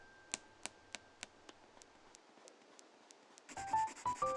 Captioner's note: tap, tap, tap, tap, tap